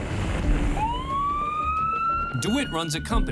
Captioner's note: siren blaring